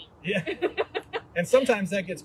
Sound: laughter

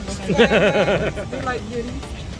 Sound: couple laughing

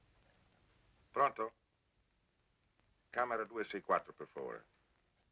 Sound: Italian spoken audio

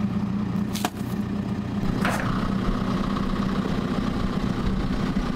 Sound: truck engine roaring

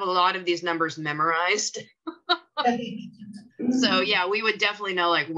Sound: chuckles

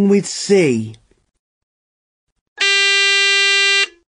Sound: Nikkiís buzzer

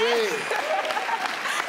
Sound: crowd clapping; laughing

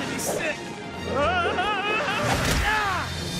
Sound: screaming

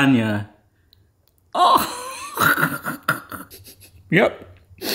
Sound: sniffing

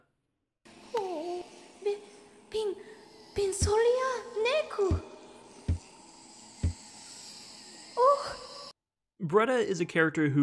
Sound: Bretta speaks bug nervously

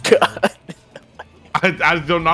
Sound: laughs

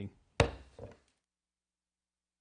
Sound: gavel Hitting Podium Sound

